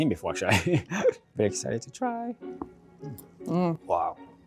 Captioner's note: laughs